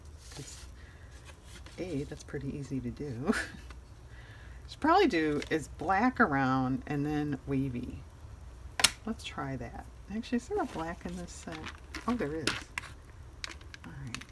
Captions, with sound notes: that's pretty easy to do should (laughs) should probably do black around and then wavy let's try that actually is there a black in this set? oh there is, all right